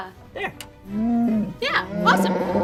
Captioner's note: Chewbacca sounds